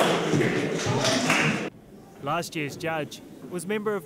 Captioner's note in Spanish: vítores y aplausos